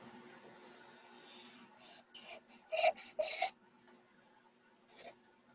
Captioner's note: pencil squeaking